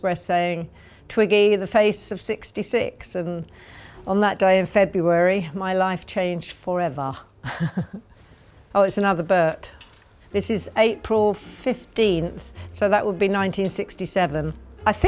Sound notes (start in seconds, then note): 7.4 chuckles